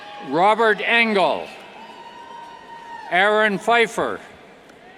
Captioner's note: cheers